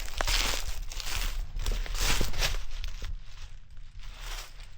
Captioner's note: leaves crunching